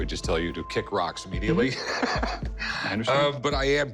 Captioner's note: laughs